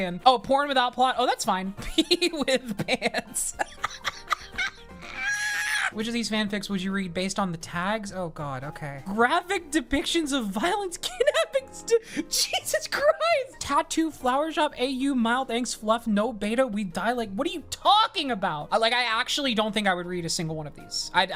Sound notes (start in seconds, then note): 4.6 laughs